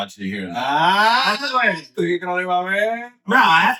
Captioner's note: speaking Foreign Language